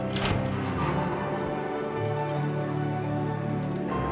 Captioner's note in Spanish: traqueteo de la cadena